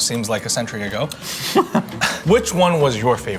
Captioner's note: laughs